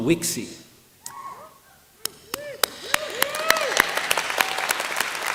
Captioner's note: cheering